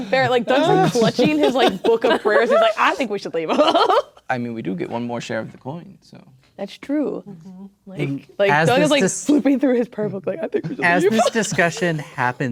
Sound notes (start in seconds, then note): 3.9 laughing